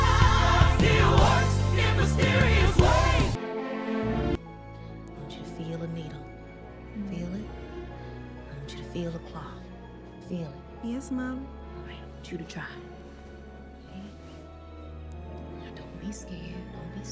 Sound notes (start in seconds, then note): none